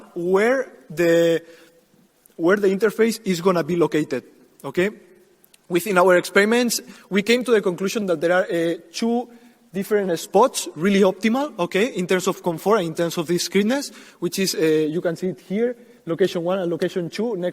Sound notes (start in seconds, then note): 12.5 speaking quickly